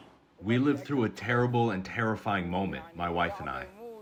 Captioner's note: through translator